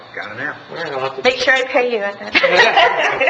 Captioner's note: laughs